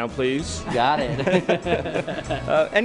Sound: chuckles

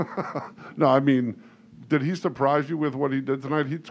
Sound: laughs

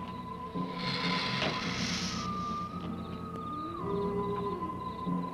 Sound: Gila monster hissing

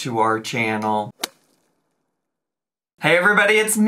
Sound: logo thuds

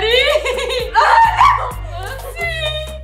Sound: giggles

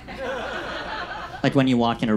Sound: audience laughs

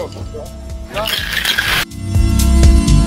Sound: gravel rustling; upbeat electronic music

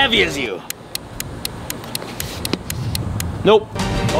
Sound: clock ticking

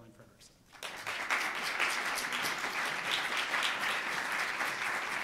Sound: audience applauds

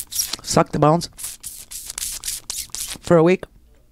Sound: sucking noise

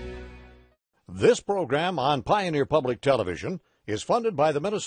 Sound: voiceover

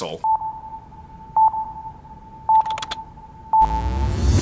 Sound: beeping; techno music

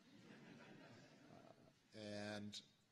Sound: laughter

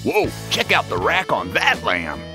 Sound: none

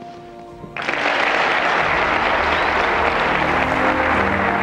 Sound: audience applauds

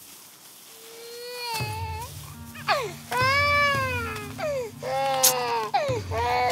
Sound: baby crying

